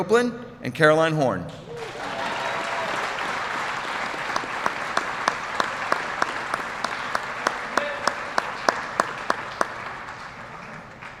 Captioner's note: applause